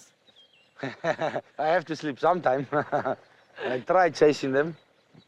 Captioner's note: laughs sarcastically